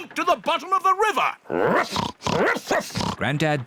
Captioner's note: oinks; barks